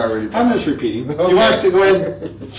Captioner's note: laughs